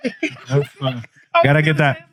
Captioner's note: laughing